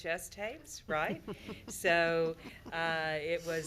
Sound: members laughing

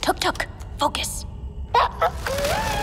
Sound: Tuk Tuk chirps

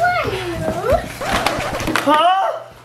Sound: mix tape scratches

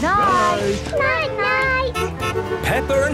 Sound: honking

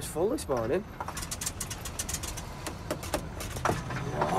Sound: tapping

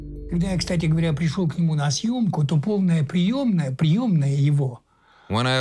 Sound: speaking Russian

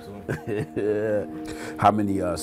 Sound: chuckles

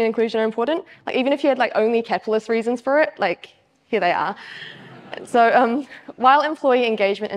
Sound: audience laughs

